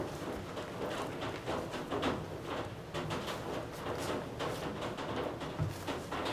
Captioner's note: the sound of rain outside is very healing